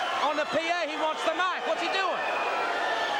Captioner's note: crowd cheering